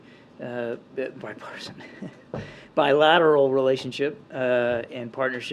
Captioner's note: laughs